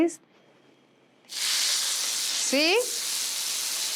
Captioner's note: sizzling